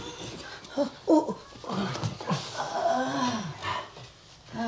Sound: Franky groans

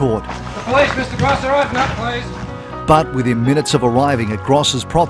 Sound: knocking on door in the background

